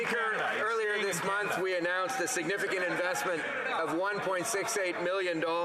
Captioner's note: applause